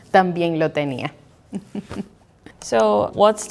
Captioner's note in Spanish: Risas